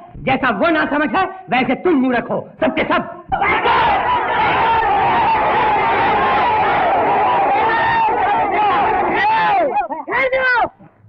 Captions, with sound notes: Like him even you all are fool. (Commotion) Stop it.